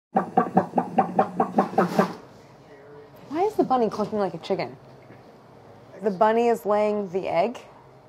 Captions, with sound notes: [clucking] - Why is the bunny clucking like a chicken? The bunny is laying the egg?